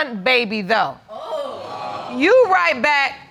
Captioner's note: audience exclaims